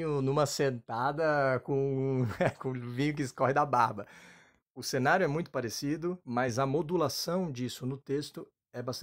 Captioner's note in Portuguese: risos